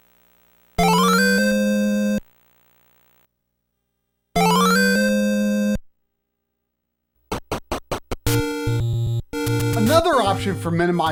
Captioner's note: audio buzz comparison